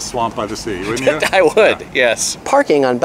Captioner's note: laughs